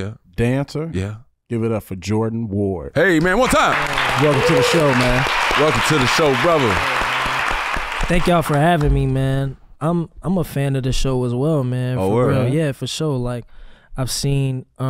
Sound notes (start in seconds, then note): 8.0 recorded audience applauds